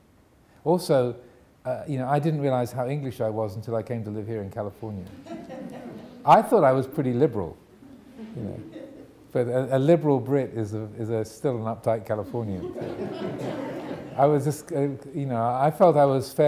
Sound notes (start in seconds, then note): 5.8 audience laughing